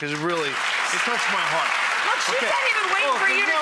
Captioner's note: audience applause